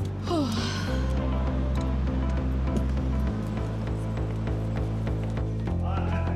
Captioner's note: Liv sighing; upbeat music